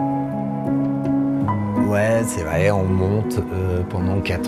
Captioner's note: man in French